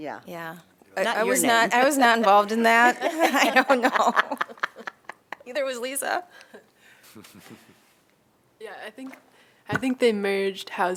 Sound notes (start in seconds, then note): 2.8 laughter